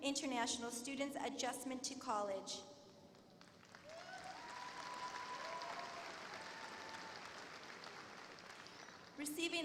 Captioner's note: applause